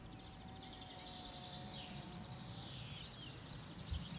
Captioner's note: birds chirping, mowing noises